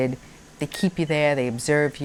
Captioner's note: monitor beeping